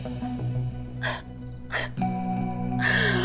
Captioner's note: Sobs